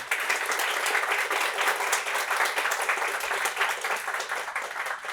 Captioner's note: applause